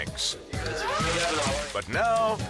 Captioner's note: paper crinkling